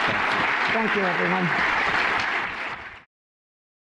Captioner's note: applause